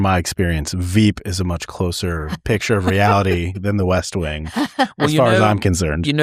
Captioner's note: laughter